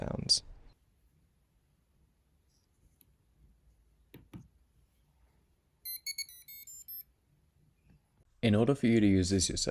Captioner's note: beeping from piezo buzzer